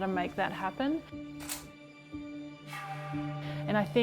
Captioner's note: camera clicking